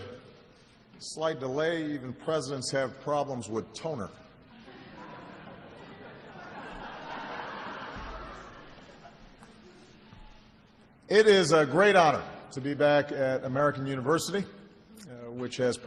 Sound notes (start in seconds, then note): 4.6 laughter